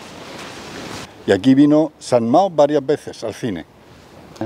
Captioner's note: in Spanish; 西班牙语